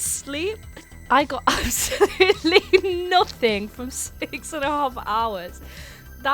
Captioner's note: laughing, unintelligible; laughing